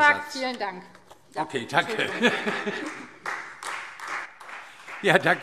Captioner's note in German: Heiterkeit – Beifall Freie Demokraten